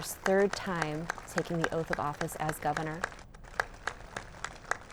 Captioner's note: applause